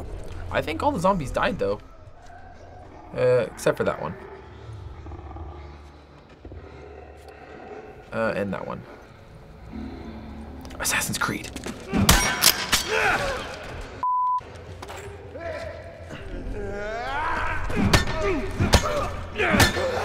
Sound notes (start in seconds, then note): 4.6 faint growling; 9.8 ominous music; 11.7 runner groans; 12.7 Joel grunts viciously; 16.4 runner screams aggressively; 17.6 runner yells; 18.2 Joel grunts